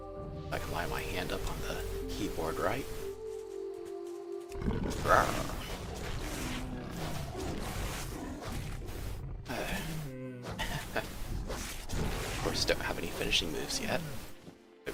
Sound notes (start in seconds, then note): 10.4 laughs